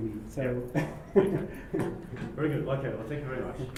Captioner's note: laugh